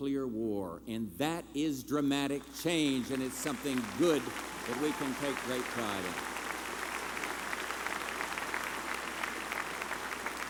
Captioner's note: applause